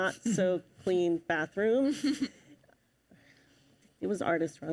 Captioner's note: chuckles